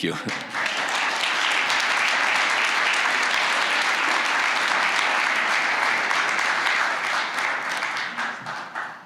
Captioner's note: applause